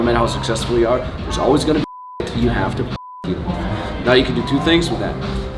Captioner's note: beep